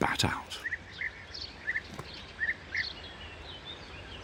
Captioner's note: birds chirping